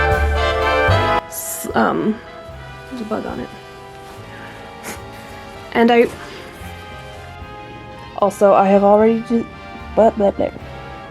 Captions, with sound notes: S-- um... there's a bug on it. *blows* and I-- also, I have already d-- buh bep bap